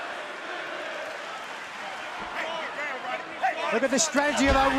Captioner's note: crowd cheering